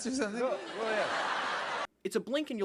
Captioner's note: audience laughter